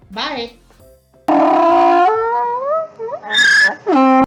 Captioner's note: donkey Braying